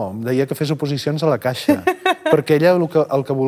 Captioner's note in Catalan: ríe